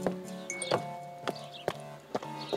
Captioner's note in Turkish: Bildirim sesi